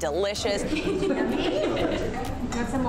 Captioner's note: laughs